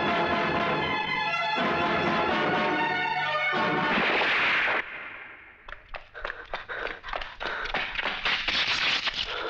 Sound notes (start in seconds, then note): 3.9 gunshot